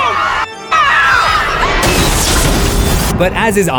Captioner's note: screams